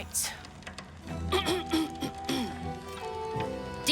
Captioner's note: clears throat